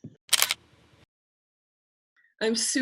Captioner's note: camera clicking